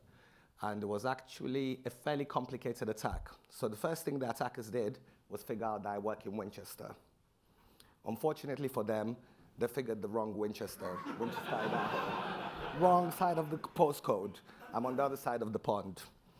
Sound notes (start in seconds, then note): 10.9 audience laughing